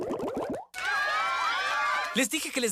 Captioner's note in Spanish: Aplausos 'el publico.mp3